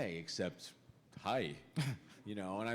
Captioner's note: chuckle